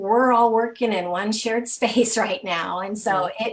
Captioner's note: laughing